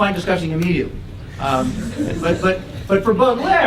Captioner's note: laugh